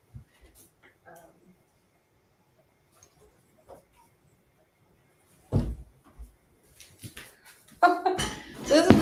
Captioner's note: silence; laughs